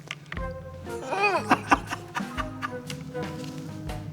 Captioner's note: laughing